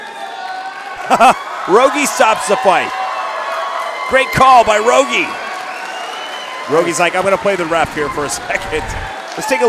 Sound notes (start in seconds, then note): 1.0 laughter